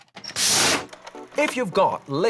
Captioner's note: whooshing